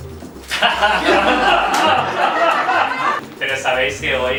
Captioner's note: laughs